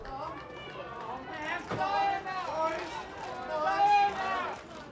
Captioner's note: photographers chattering